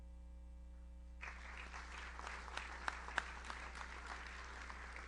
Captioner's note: audience applauds